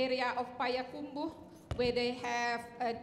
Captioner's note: speaking in Indonesian